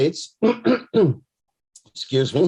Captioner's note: clears throat